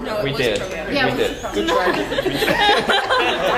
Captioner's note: laugh